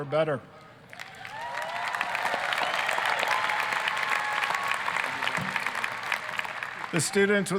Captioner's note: applause, cheering